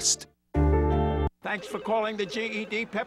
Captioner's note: phones ringing